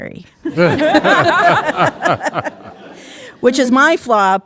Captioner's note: audience laughing